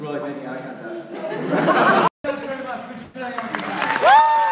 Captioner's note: audience laughs